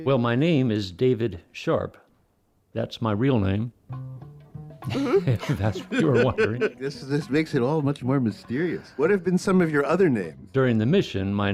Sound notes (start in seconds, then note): 4.8 laughs